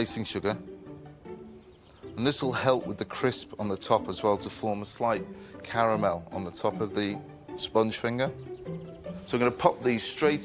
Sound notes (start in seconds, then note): none